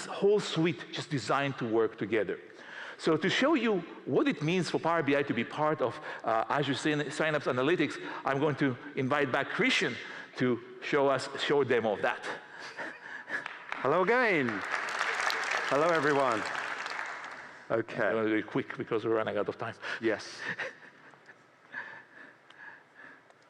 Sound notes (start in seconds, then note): 18.4 applause